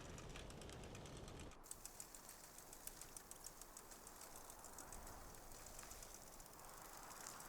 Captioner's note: bike rattling; wind whistling